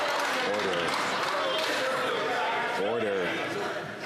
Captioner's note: some Applause